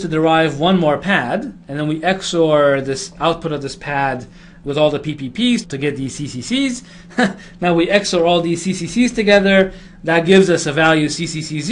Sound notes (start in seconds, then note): 7.1 laugh